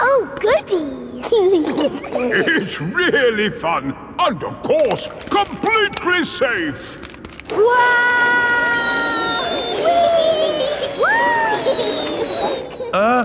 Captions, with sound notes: Oh Goody! (GIGGLING) It's really fun! And of course, completely safe. (ALL YELLING)